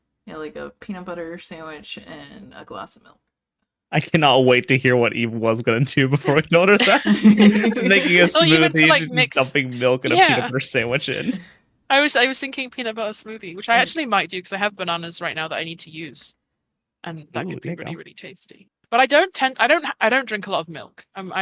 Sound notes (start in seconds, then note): 5.6 everyone laughs